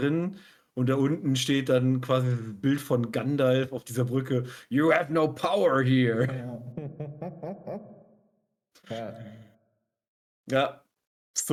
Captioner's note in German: gelächter